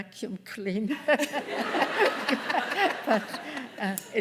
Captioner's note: laughter